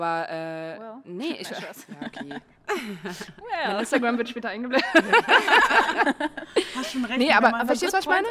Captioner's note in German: Gelächter